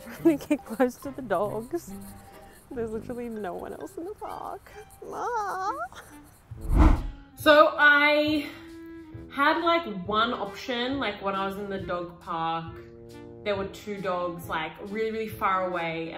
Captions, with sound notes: Let me get close to the dogs, there's actually no one else in the park. (air whooshing) So I had like one option, like when I was in the dog park, there were two dogs like really far away